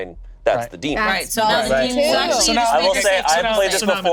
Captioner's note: group chattering